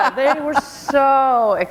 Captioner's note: laughter